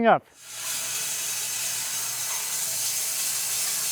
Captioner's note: saw whirring